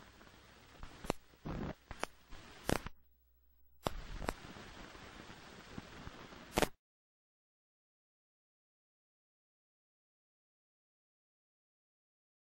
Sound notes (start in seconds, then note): 7.3 silence